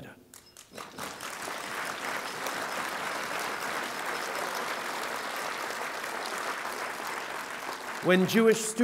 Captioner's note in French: Applaudissements